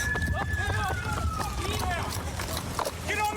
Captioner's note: shouting